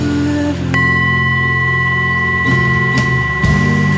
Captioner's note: bowl clang